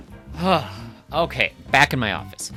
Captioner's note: sigh